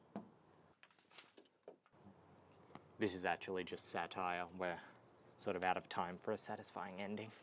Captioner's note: tapping on window